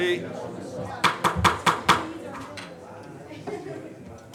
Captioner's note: gavel pounds